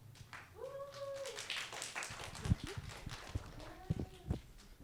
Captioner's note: audience clapping